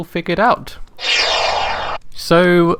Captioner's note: swoosh sound